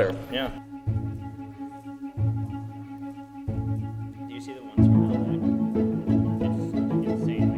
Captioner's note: gentle music; speaking off microphone